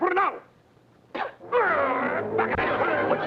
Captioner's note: Pilar spits; men talking excitedly